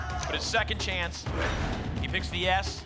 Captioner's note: lock sound